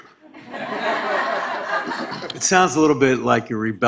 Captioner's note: laughing